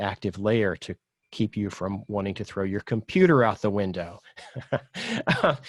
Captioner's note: laughs